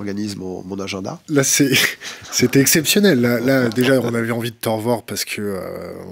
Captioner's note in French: rires